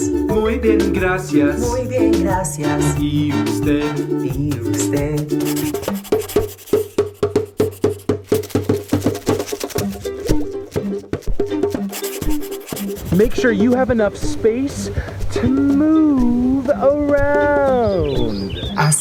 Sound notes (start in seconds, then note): 5.3 pencil writing; 9.7 drum beat plays